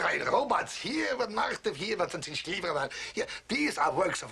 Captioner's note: speaking German; speaking German